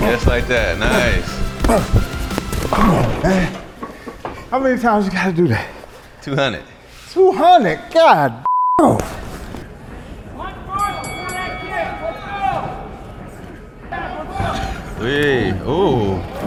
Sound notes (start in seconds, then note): 2.7 Spice grunting; 2.8 bowling pins clanking; 8.5 beeps; 10.2 coaches chattering; 10.7 bell dinging